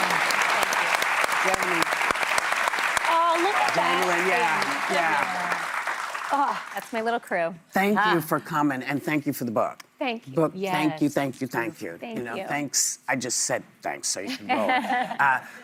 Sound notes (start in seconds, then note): 2.4 applause